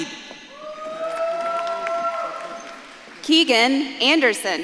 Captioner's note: audience claps and cheers